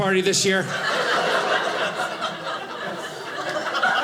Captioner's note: audience laughing